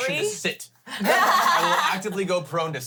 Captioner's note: everyone laughs